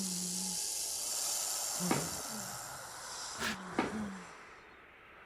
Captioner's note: snake rattling